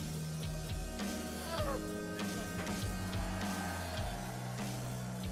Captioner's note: painful groan